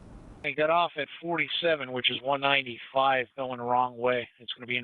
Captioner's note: radio